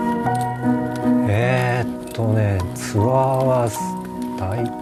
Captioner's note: man in Japanese